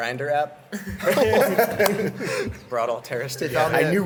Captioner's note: laughs